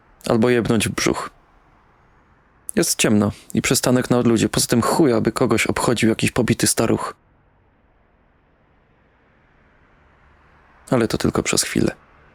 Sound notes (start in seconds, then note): none